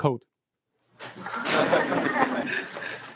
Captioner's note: laughter